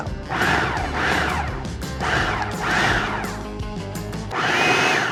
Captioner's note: food processor whirring